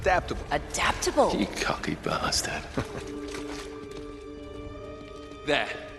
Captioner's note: laughs